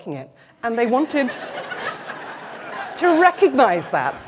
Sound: laughter

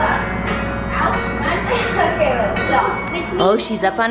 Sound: children mumble

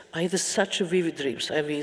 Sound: none

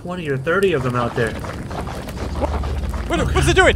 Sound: squishing noise

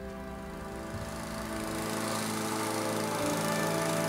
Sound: sound of lawn mower

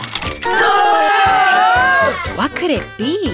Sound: audience booing

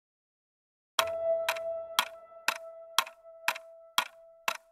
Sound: clock Ticking

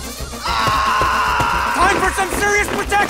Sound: Brazilian screaming

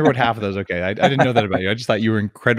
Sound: laughs

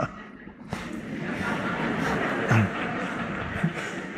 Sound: Eckhart laughs; audience laughs

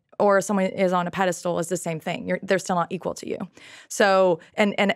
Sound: none

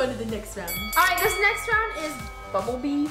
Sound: bell dings

